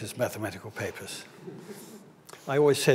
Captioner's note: audience laughs